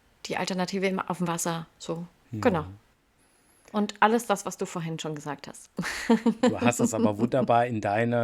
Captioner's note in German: gelächter